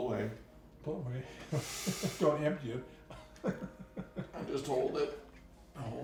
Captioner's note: laughter